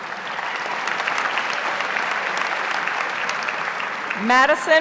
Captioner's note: audience applauds